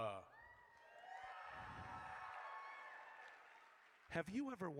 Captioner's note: audience cheers